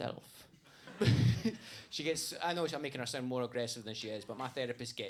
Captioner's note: laughs